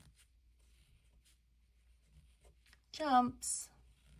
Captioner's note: none